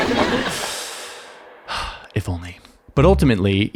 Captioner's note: audience laughing; sighs